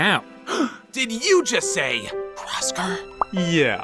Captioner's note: gasp